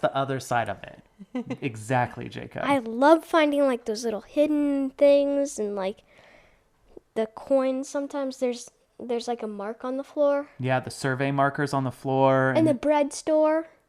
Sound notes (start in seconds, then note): 1.2 laughs